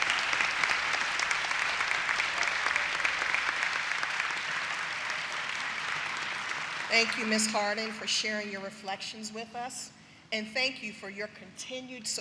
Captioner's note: applause